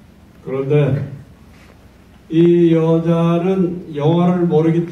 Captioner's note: in foreign language